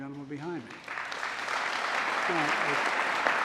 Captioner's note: applause